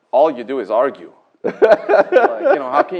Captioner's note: laughter